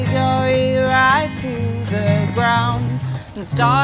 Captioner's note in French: ébrouement